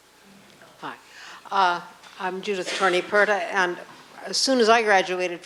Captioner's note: voiceover